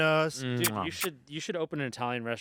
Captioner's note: kissing